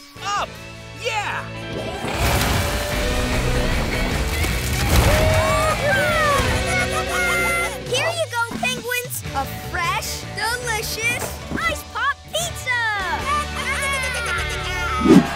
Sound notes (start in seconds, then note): 6.6 penguins squawking; 12.4 penguins cheer